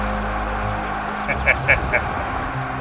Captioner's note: wicked laugh